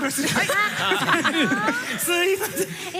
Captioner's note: laughter